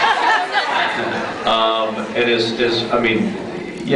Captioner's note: laughs